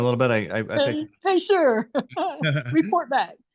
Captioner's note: laughs